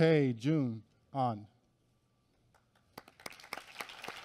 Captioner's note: applause